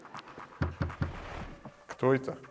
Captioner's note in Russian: Тук тук тук